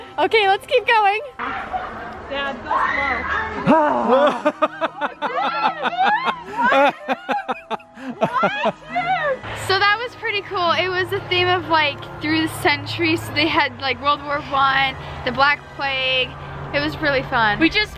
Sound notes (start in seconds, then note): 3.6 laughs; 4.0 roaring